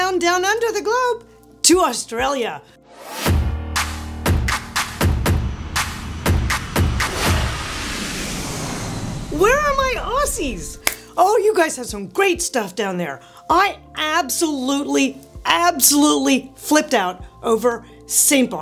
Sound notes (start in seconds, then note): 2.9 upbeat music; 5.5 plane buzzing